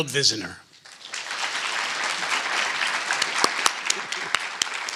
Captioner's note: applause